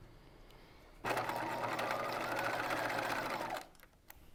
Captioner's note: machine whirring